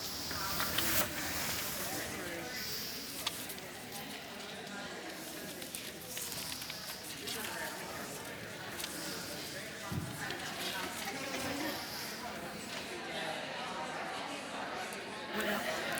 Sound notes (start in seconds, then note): 1.4 audience chatter